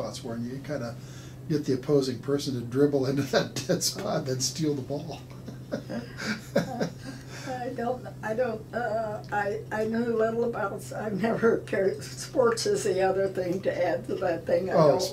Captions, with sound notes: and you kinda get the opposing person to dribble into that dead spot and steal the ball. (laughing) - Sports is the other thing to add that thing I don't love.